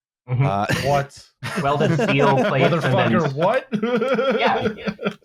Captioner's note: laughs